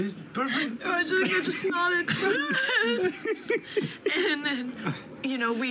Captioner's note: laughter